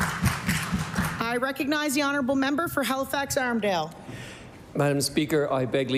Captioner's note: applause